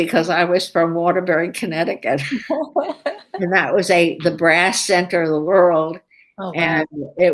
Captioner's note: laughter